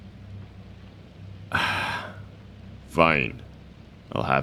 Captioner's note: he sighs and rolls his eyes dramatically